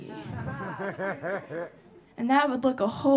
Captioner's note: audience laughing